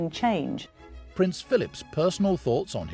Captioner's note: voiceover